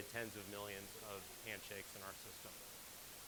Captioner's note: none